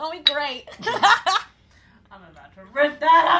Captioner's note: laughter